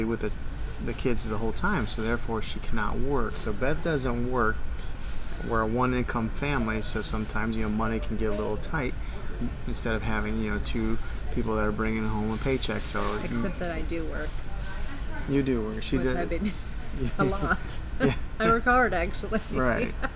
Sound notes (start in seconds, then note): 17.9 laughs